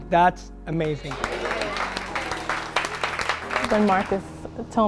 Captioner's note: clapping